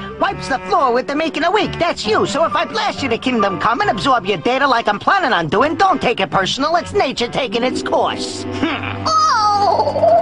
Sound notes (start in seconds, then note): 8.5 laughs